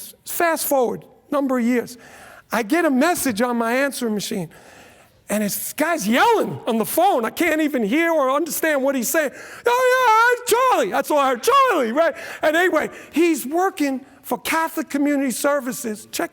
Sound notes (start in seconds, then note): 9.4 incoherent yelling